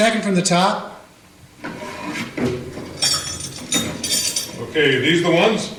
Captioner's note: metal keys clank